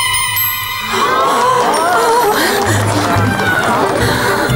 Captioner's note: crowd gasps in amazement; applauds